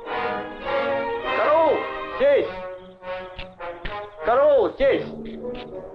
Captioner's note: general speaking in Russian